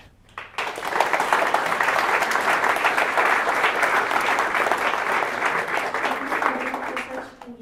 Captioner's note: applause